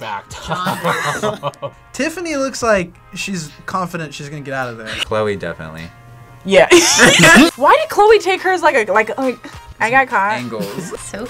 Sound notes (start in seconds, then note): 6.7 laughs